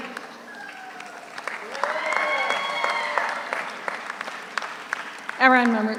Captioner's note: audience applauds; audience cheers